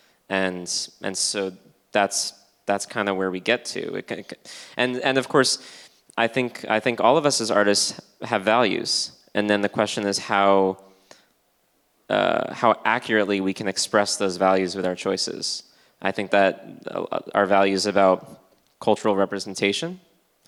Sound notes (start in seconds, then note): none